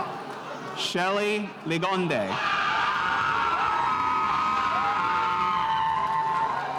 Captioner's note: spectators cheering